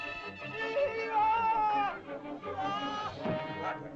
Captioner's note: man cries out; body thumps; dramatic music